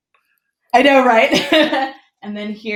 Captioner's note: laughs